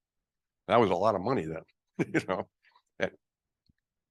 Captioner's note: laughs